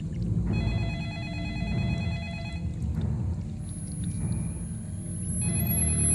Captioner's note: telephone Ringing